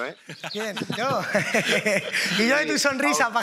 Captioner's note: laughs